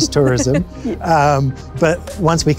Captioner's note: laughs